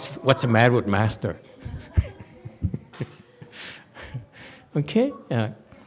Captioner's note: laughs